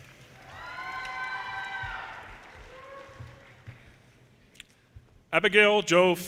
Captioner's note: audience cheers and applause